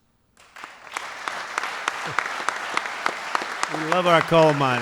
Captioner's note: applause